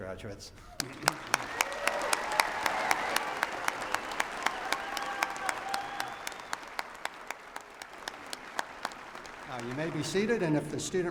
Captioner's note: applause